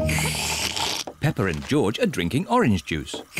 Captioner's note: both slurping